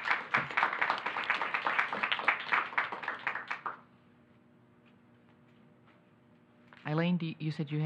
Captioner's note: applause